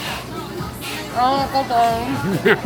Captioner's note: laughter